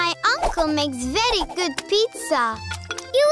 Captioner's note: none